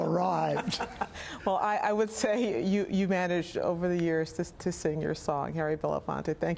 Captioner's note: laughter